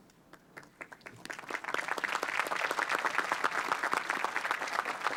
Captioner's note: applause